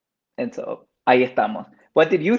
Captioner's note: speaks Spanish